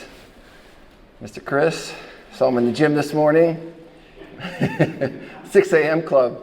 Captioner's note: chuckles